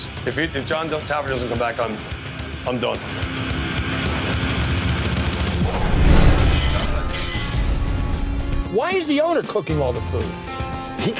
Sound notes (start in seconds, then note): 6.2 receipt machine buzzing